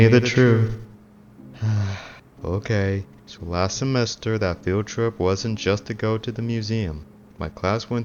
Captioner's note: sighs